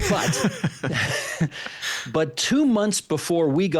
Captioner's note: both laughing